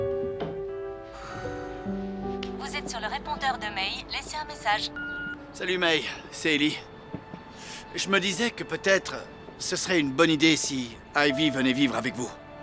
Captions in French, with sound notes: (soupirs) - Bonjour, vous êtes bien chez May. Laissez un message. (le téléphone émet un bip) - Hey, May. C'est Eli. J'ai pensé... Ce serait peut-être une bonne idée si Ivy venait vivre avec vous.